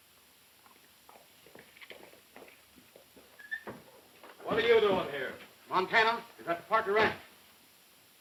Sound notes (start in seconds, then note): 0.5 galloping hooves